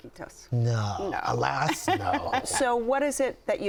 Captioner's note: laughter